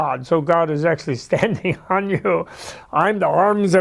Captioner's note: laughter